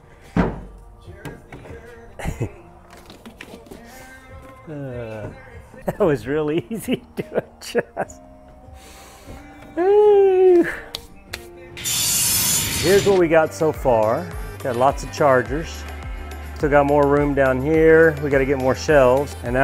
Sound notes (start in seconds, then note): 9.7 laughing; 11.8 metal blades shearing